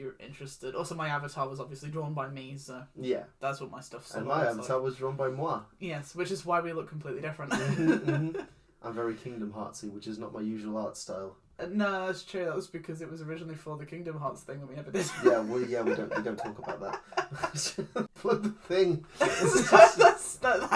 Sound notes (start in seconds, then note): 15.0 laughs